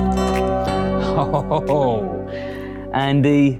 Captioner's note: laughs